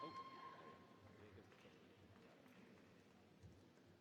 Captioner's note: applause